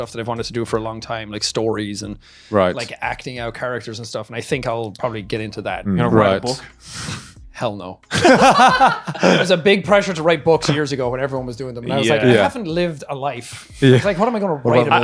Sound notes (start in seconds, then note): 8.1 laughing